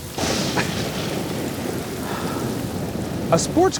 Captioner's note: Jason sighs, his hair is going to frizz